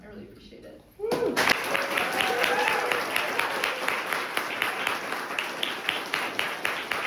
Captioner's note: audience applauds and cheers